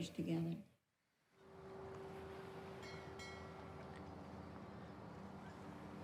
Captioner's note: waves lapping, gulls calling